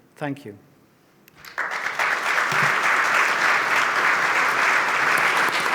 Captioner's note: audience clapping